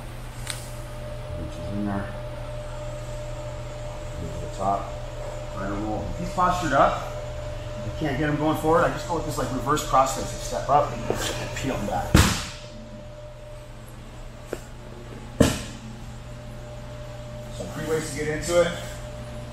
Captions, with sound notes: Reaches in there, go to the top, right over. If he's postured up, and you can't get him going forward I just go with this reverse cross here. So step up and peel him back. (hand slams against the floor) (hand slams against the floor) So three ways to get into it.